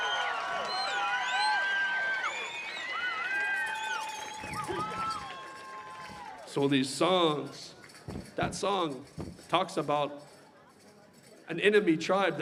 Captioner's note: cheering and applause